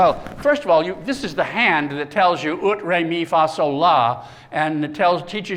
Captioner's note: non-english speech